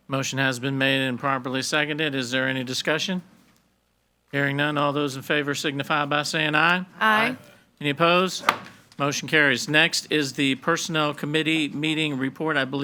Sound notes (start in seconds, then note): 8.6 gavel bangs